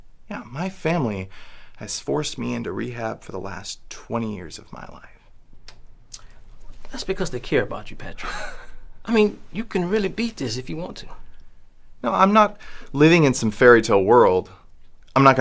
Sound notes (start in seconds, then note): 8.1 Patrick snickers